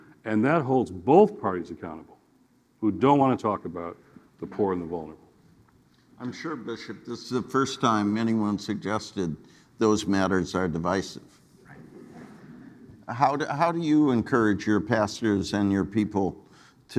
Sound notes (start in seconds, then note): 11.8 audience laughing